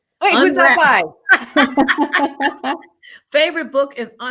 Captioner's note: both laughing